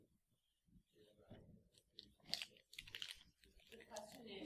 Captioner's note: background chatter